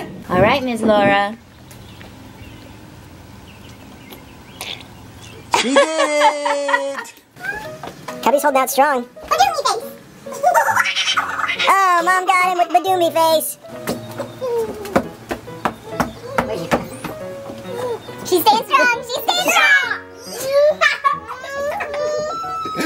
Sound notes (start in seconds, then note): 5.4 laughing; 10.3 monkey noises